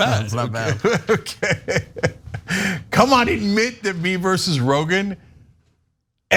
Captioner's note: laugh